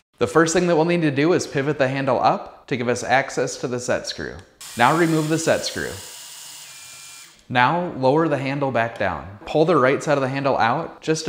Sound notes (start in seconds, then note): 4.6 screwdriver whirring